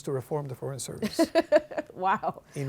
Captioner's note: laughing